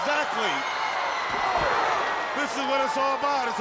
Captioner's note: crowd cheering